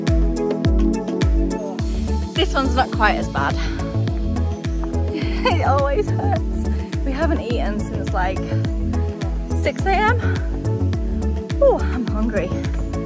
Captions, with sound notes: This one’s not quite as bad. (Laughs) it always hurts! We haven’t eaten since like 6am. Oooh, I’m hungry.